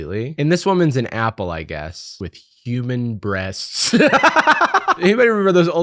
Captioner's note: laughs